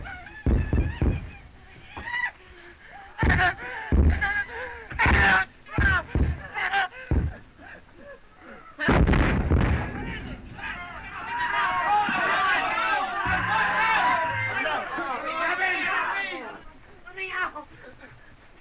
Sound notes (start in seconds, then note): 2.9 screams; 11.2 all clamoring